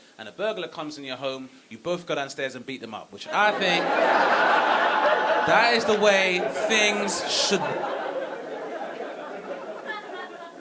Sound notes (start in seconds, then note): 3.2 audience laughing